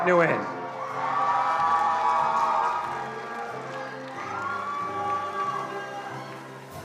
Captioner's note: attendees cheering and applauding